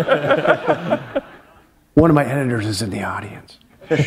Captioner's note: laughter